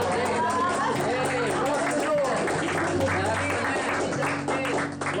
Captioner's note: crowd applauding; drowned out by applause